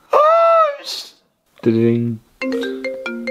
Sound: rrrring~

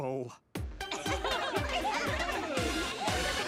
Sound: all laughing

